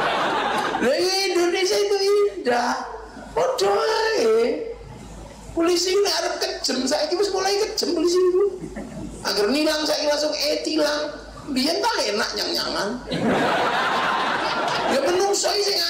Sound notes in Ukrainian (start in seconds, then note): 13.0 Сміється